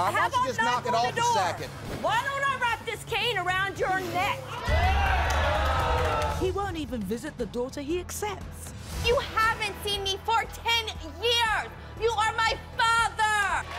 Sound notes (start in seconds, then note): 4.6 audience whoops